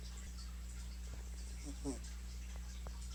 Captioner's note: quick snore